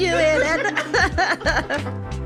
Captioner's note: laughter